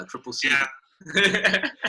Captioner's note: laughing